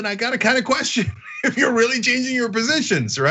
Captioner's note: laugh